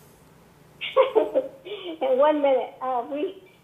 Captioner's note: laughs